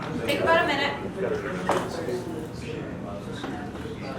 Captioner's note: background Discussion